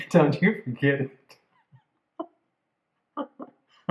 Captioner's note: laughter